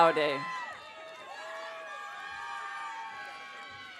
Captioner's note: audience cheering